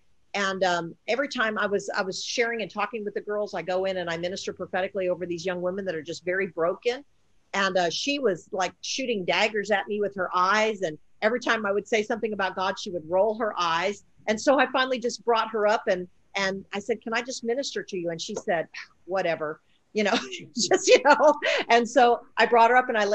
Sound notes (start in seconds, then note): 20.1 laughing; 20.2 scoffs